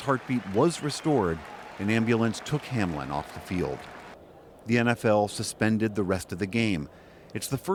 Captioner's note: applause